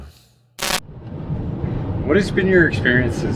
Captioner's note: static